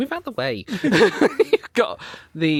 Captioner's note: pair laughing